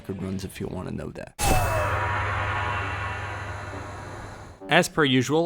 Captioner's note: gong sound effect